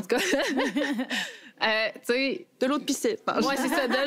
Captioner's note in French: rires